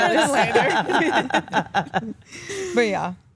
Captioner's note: all laugh